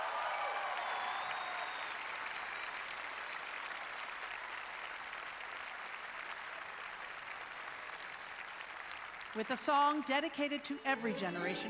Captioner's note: applause